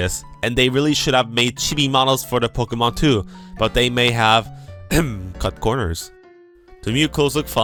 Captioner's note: ahem